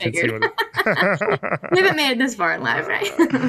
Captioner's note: both Laughing